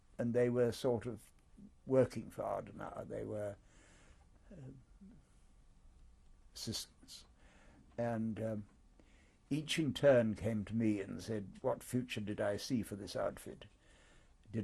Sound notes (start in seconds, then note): 4.2 pauses for 3 seconds